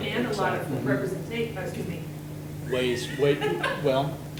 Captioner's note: laughs